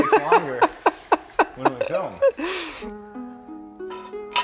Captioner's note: laughs; soft music